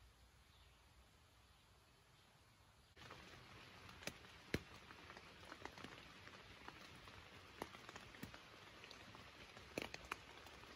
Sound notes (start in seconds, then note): 4.1 raining